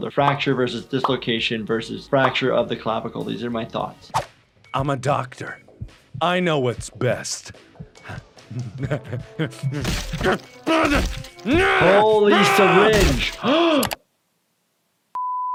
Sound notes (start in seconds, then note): 8.0 laughs; 10.6 groans; 13.1 gasps